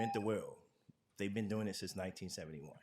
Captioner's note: tone